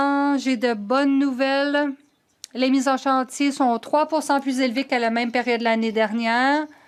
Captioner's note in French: voix de l'interprète